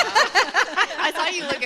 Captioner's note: laughter